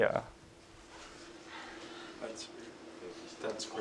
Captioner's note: indistinct conversation